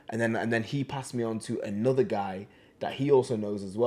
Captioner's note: none